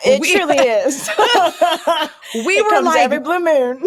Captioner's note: laughs